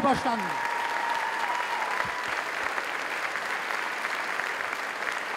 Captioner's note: applause